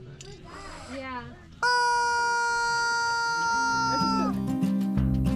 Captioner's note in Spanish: Ruido del pollo